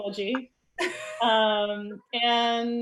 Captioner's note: soft laughs